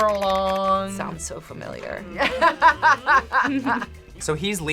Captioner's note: laughs